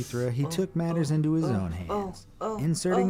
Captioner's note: inhales sharply